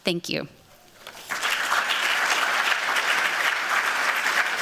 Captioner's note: applause